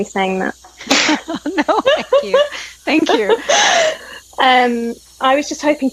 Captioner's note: laughs